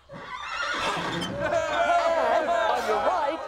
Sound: crowd cheering

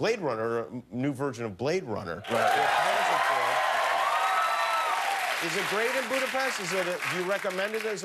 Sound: cheers and applause

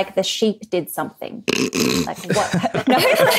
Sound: snorts; group laughing

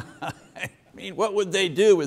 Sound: chuckles

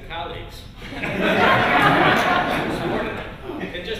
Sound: laughter

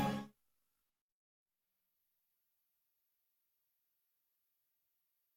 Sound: computer commercial jingle plays; silence

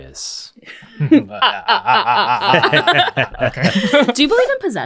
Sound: evil laughing

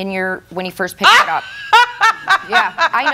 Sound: laughs

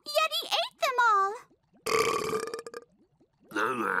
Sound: burps; mumbles

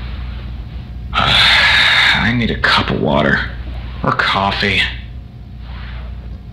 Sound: sighs

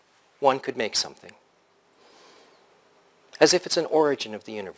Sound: pause

